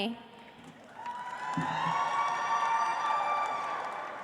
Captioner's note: audience applauds